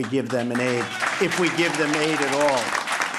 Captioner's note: applause